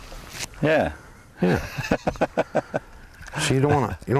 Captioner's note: laughter